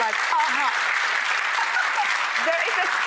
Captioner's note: applause